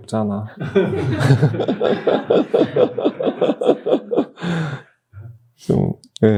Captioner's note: everyone laughs